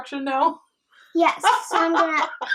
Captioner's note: nana laughing